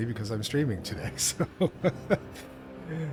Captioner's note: laugh